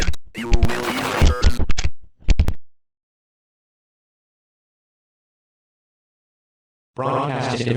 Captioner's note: EAS returns